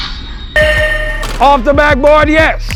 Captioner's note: buzzer blares